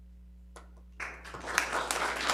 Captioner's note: Aplauze